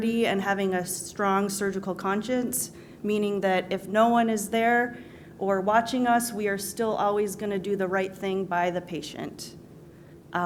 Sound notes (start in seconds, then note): none